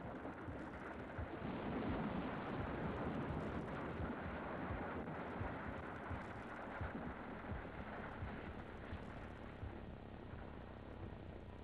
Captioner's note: earth rumbling